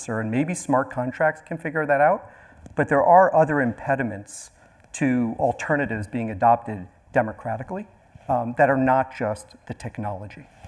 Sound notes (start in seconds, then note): none